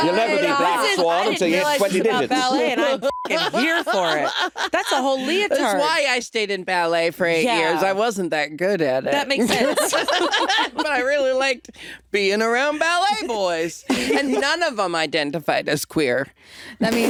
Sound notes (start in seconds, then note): 3.0 beep; 9.2 all laughing